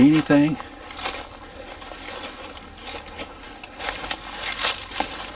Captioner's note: leaves crackling